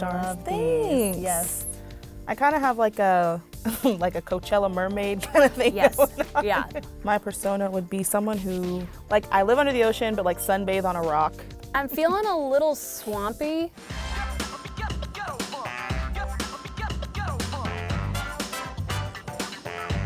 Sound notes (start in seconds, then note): 3.6 laugh; 5.4 laughs; 11.8 giggle